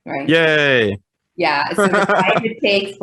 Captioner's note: laughing